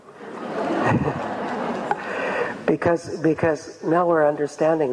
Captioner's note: audience laughs